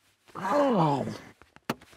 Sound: grunts

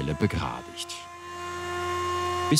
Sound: machine noise

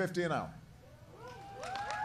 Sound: applause

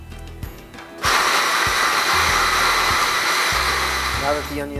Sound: processor sound

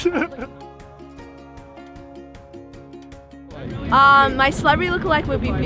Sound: person laughing

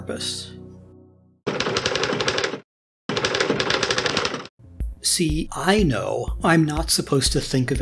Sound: typing

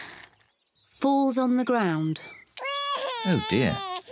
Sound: cries

